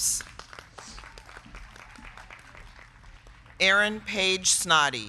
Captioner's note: crowd clapping